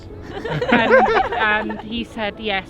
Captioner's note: couple laughing